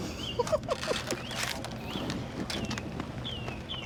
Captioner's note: laughs